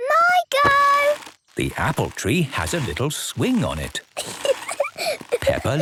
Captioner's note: giggling